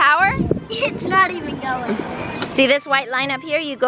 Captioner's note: laughs